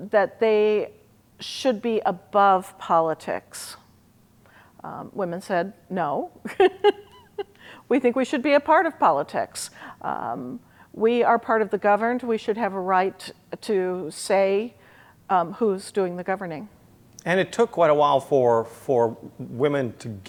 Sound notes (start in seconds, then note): 6.5 laughs